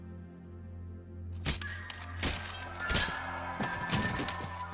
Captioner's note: knife thudding